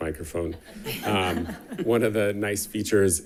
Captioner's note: attendants laughing